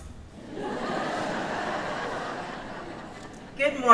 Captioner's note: audience laughs